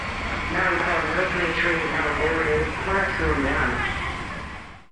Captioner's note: doors hiss; announcer speaking faintly